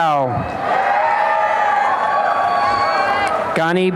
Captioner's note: applause and cheering